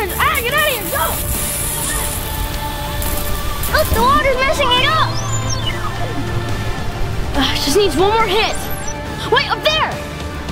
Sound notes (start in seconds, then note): 0.0 sprinkler shoots water; 6.1 synth scales